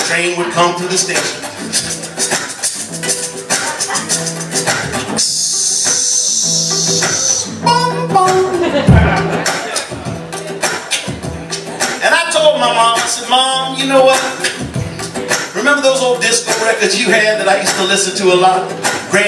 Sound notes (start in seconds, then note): 8.4 laughter; 11.1 vocal percussion